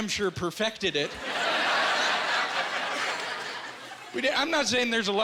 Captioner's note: laughing